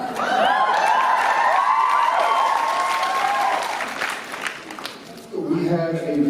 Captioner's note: applause